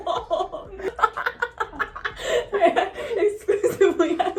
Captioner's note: laughs